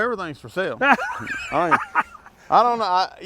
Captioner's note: laughs